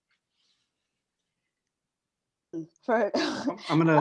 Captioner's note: laughing